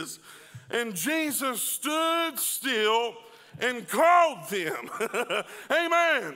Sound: laughing

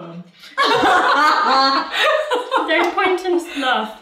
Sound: laughing

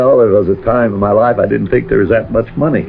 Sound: laughs

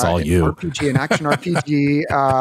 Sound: laughs

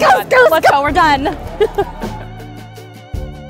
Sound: chuckling; void lounge music

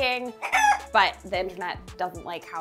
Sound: rooster clucking

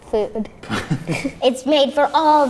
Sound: laughs

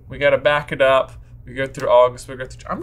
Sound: none

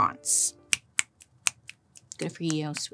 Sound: fingers snapping

